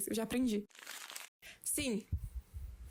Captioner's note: paper sounds again